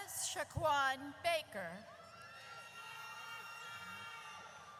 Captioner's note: audience cheers